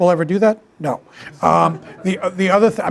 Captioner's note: attendees chuckling